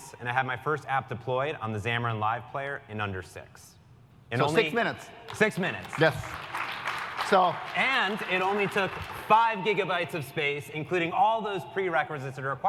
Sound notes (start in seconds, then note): 5.2 applause